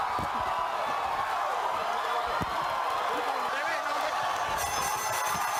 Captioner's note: applause